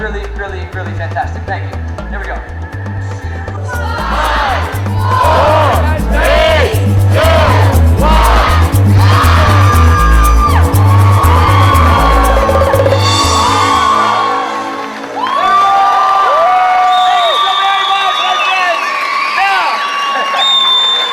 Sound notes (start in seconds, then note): 9.1 audience cheering and applauding; 20.1 chuckles